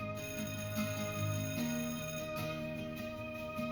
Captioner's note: bell ringing